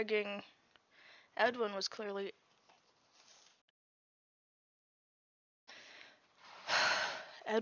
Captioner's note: sigh